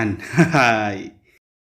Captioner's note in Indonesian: tertawa